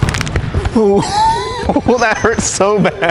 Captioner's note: laughing